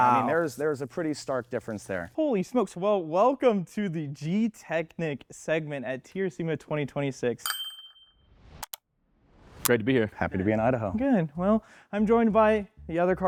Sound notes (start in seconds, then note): 7.4 bell dings